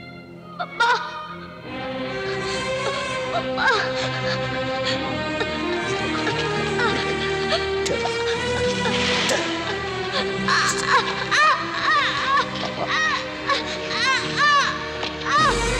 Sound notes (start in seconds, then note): 10.4 groaning in pain